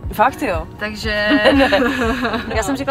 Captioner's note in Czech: Smích